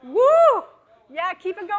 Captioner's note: screams